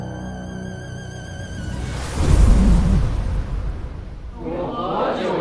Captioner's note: sandstorm